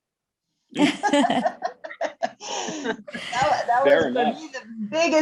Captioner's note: panelists laughing